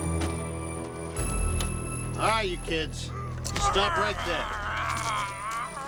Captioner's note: all Growling